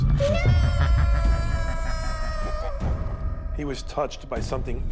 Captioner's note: screaming